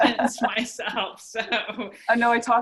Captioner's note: laughs